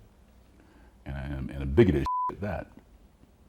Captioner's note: beep